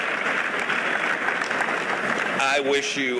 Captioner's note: applause